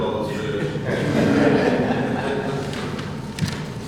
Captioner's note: laughter